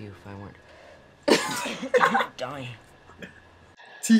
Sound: laughs

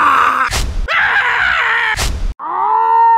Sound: Sniper Death Scream; soldier Death Scream; Pyro Death Scream

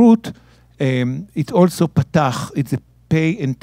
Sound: speaking in Hebrew

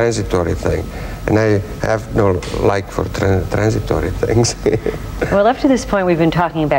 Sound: laughs

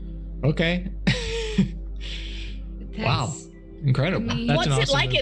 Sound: laughs

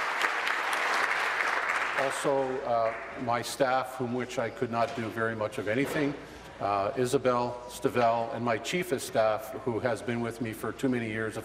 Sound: applause

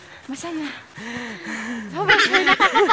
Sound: gasping for breath

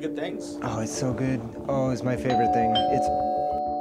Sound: doorbell rings

